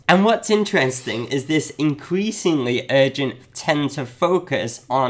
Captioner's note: none